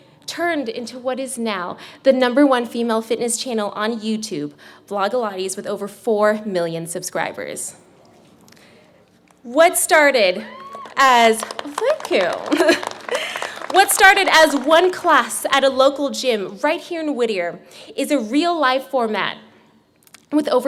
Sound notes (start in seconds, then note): 10.4 girl screams from the audience; 13.0 clapping